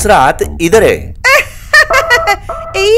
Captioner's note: Amma giggling